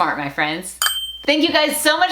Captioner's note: dinging